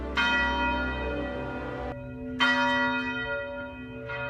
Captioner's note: bell chimes